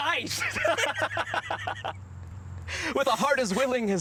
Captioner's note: both laughing